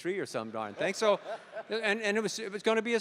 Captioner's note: laughter